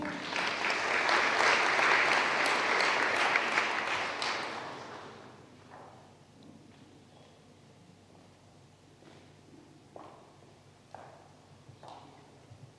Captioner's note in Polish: oklaski